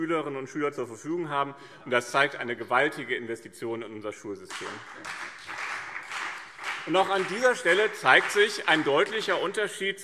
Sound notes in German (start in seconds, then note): 4.4 Beifall BÜNDNIS 90/DIE GRÜNEN und CDU